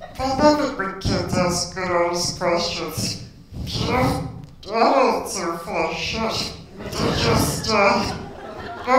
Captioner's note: laughter